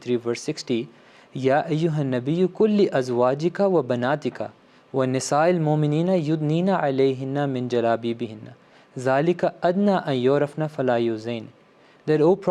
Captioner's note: arabic, Holy Quran 33:60